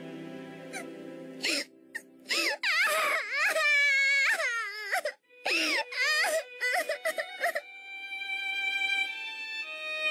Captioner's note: crying intensifies